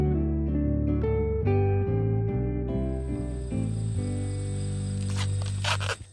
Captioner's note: Husk squeaking